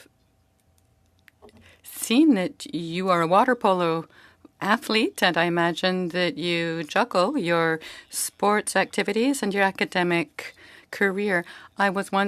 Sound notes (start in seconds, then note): 5.1 speaking French